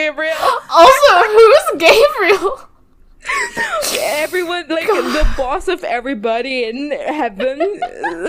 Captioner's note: laughing; laughs